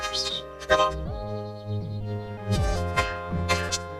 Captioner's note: whistles